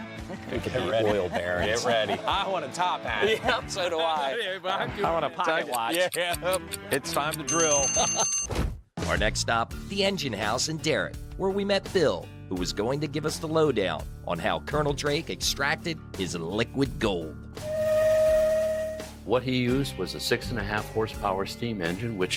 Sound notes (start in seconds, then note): 5.8 clock ticking; 7.4 timer dinging; 17.6 steam engine blows